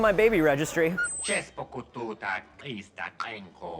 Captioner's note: speaking non-english